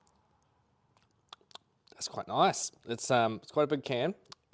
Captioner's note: lips smacking